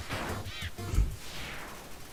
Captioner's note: snorts